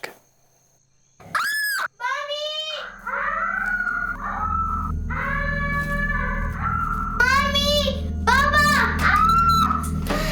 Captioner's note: screaming and crying